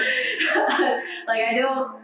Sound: laughs

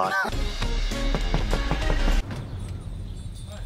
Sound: knocking again

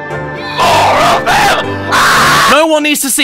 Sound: ear piercing scream

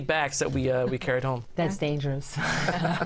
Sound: laughter

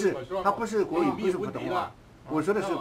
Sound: mandarin

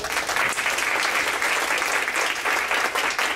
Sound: applause

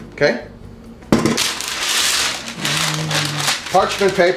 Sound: paper crackling

